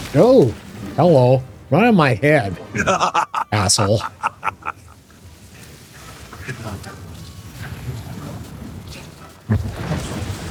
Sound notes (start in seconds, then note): 2.7 laughter